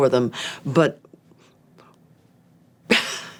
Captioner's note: chuckles